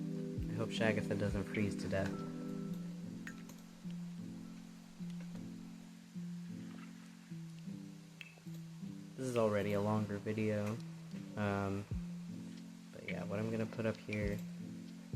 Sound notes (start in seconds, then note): none